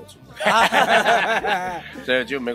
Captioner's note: laughing